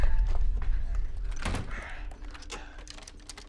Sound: breathing heavy

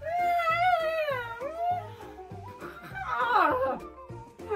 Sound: continues to whine; laughter

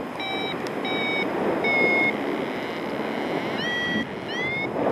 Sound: alarm intensifies; alarm slows; wire reeling; alarm accelerates; wind whooshing

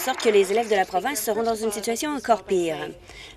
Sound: applause

